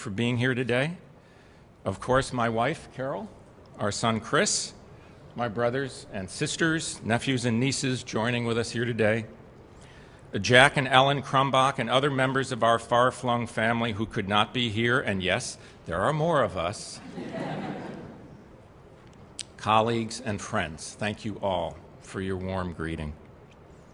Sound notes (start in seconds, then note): 17.0 laughter